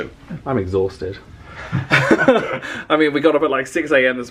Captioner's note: they laugh